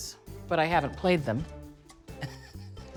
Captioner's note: laughs